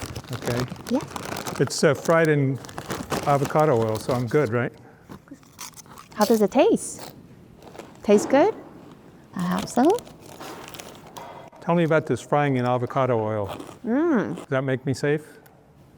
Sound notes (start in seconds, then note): 5.4 chips crunching